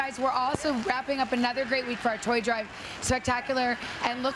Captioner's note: cheers and applause